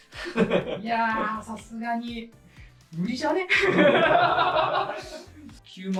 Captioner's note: laughs